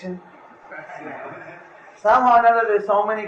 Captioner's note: laughter